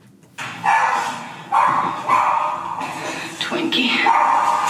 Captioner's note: dog barking